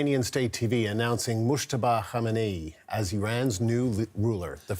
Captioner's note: speaking alternate language